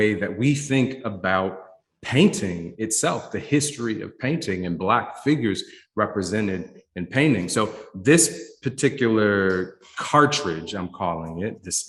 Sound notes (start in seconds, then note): none